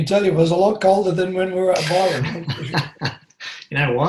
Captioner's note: laughs